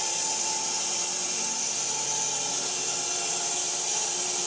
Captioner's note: saw buzzing